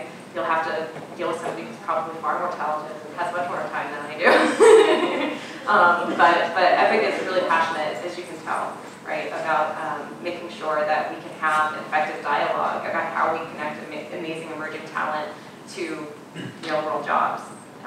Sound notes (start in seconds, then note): 4.2 laughing